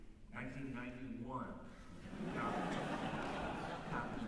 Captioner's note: laughter